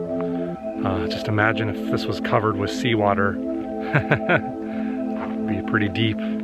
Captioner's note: laughter